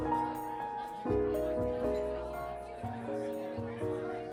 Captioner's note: diners chattering